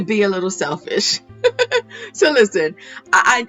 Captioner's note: laughs